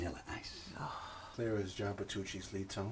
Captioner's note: Nurse Freeman sighs